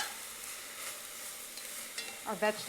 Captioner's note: sizzling